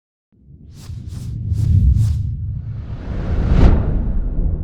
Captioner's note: logo whooshes